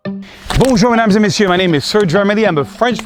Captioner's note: speaks in foreign language